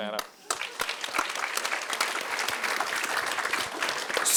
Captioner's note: audience applauding